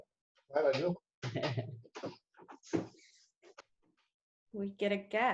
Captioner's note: chuckles